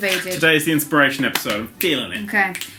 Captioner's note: clicks fingers